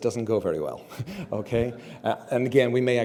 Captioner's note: laugh